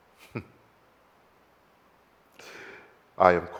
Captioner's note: chuckles